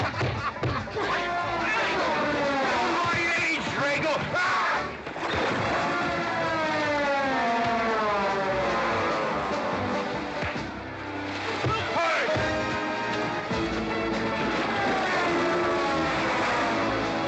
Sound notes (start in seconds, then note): 5.4 sounds of scuffling & fighting; 5.4 western fight music